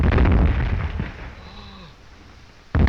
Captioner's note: gasping